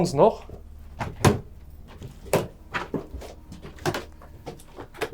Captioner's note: footsteps and wind in the background